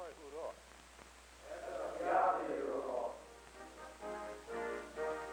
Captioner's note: distant response